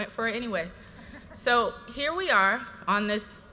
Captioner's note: graduates laughing